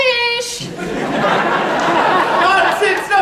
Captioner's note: laughter